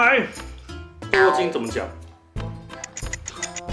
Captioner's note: in Mandarin